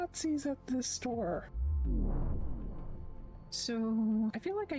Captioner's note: vwoom